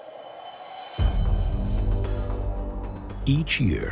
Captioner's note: wind howling